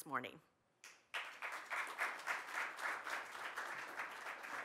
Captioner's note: audience applauds